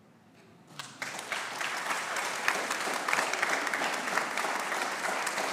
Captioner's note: audience applauding